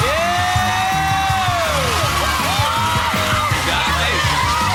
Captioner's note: cheering and applause